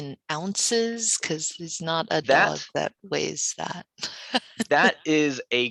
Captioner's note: laughs